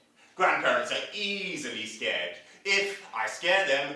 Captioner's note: none